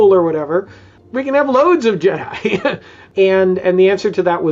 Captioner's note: chuckles